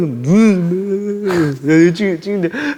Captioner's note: crying his eyes out